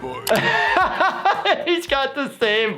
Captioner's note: laughs